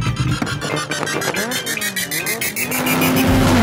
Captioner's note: engines rev